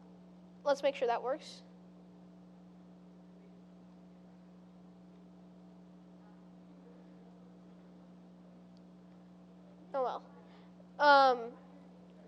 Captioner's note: pause